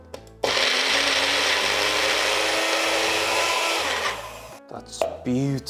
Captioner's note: blending sound